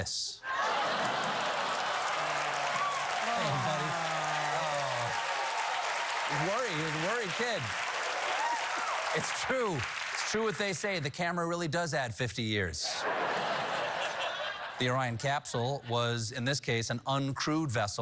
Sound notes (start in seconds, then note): 3.3 laughter; 4.6 applause